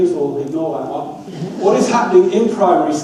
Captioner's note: audience laughs